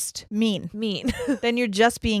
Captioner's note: chuckles